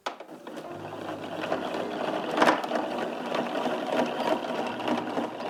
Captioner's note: tool gears spinning